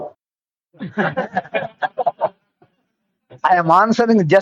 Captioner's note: laughs